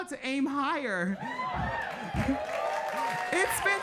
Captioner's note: audience cheering and clapping